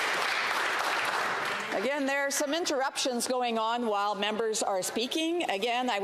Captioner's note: some Applause